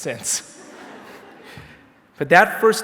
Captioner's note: laughter